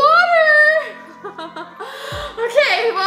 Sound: laughs

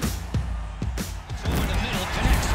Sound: crowd cheering; upbeat rock music

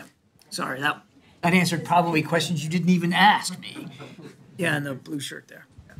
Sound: laughter

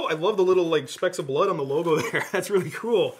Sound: laughs

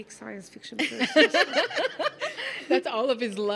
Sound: laughing

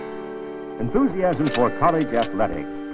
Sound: slide clicks

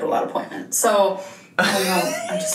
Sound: laughs

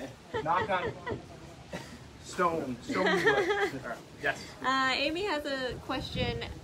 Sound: laughter muffles speaker

